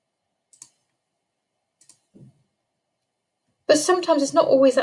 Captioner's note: mouse clicking